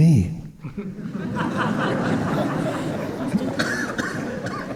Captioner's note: audience laughing